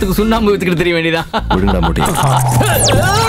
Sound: laughs

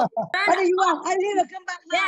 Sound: laughing uncontrollably

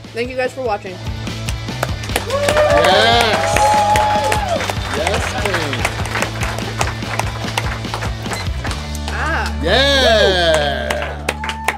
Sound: cheering & Clapping

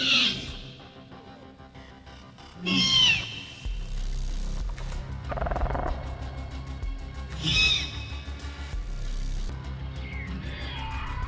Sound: Velociraptor chattering

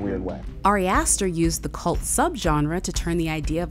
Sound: voiceover

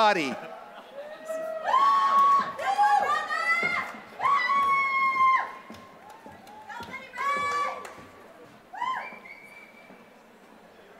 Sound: applause

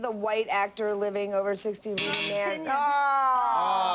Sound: buzzer

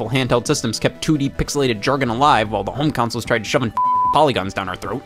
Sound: beep

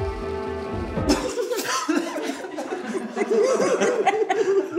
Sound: giggling

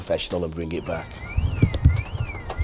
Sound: car alarm

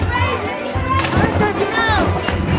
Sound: splash

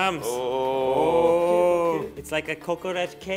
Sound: they exclaim

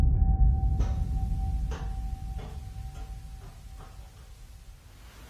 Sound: sound of ball bouncing

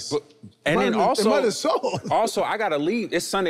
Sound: laughing amusingly

